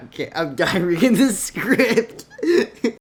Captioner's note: laughing